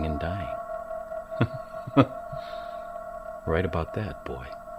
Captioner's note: chuckles